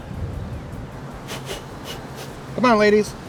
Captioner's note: blows quickly